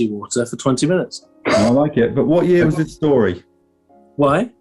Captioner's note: sniggering